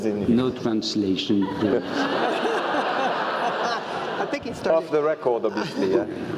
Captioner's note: laugh